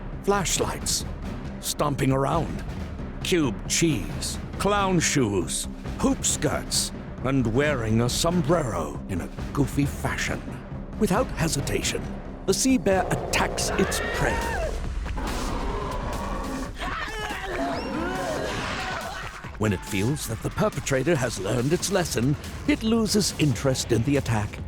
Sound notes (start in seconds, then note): 15.0 roaring; 16.7 screaming